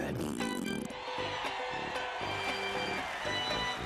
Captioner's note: audience cheering